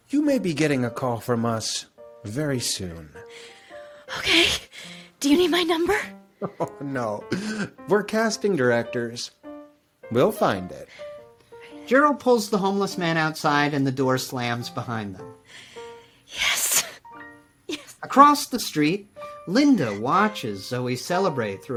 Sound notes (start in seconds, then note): 6.4 laughs